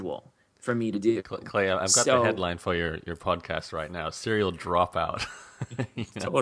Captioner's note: laughs